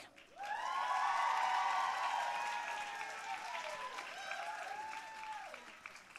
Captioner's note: audience cheering and applauding